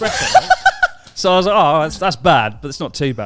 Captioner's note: laughs loudly